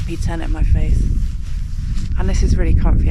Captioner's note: wind